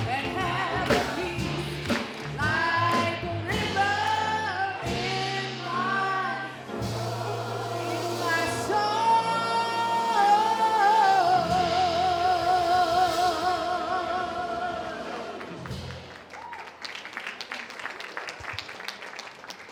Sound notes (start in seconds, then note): 15.3 audience applauds